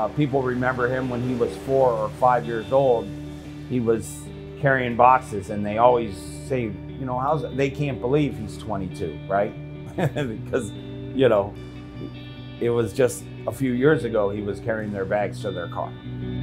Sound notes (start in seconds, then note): 9.8 chuckling; 16.1 mellow electric guitar music continuing